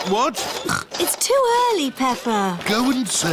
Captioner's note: snorts